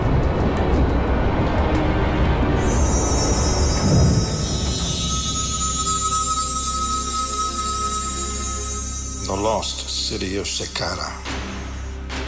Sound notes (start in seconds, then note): 2.6 mystical tinkling